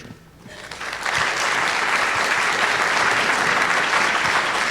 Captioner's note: audience applauding